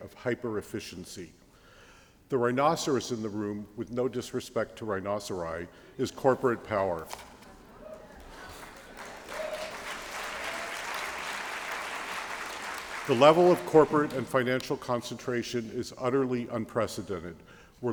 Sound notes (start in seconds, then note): 7.9 applause